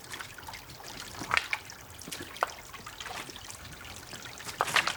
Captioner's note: rocks crunching